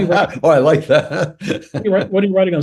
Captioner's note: laugh